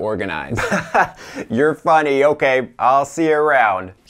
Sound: laughs

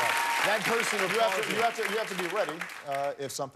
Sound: cheers and applause

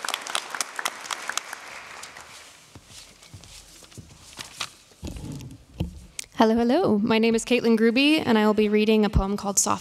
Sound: applause

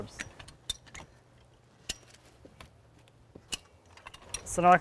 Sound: clicking of jack

